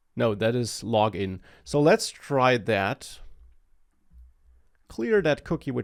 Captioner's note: none